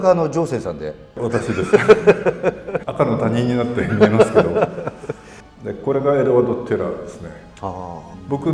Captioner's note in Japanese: 笑い